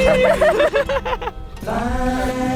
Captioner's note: laughing